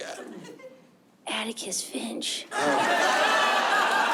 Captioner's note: wistfully